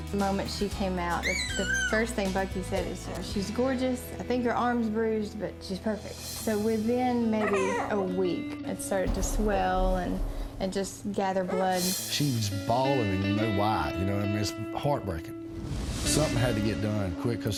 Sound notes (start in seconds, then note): 1.1 baby squealing; 7.3 baby whining